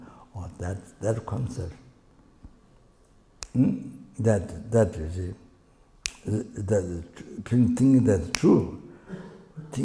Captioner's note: snaps his fingers